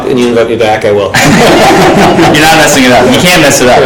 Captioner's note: panel laughing